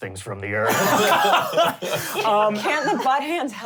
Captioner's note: laughing